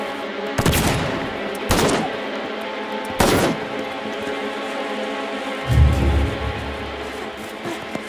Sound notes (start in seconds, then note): 0.6 gun booming; 3.2 pistol booming